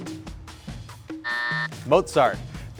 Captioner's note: buzzer buzzes